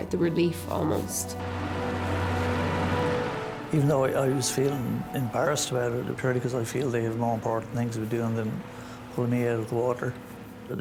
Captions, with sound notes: The relief almost. (engine humming) (tense music) - Even though I was feeling embarrassed about it apparently 'cause I feel they have more important things to be doing than pulling me out of the water.